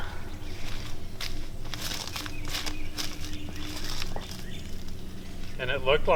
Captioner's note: crackling footsteps